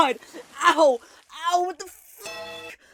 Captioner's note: bellring